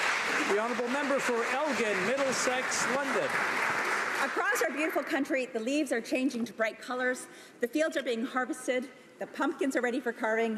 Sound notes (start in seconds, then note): 3.4 applause